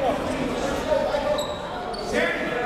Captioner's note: none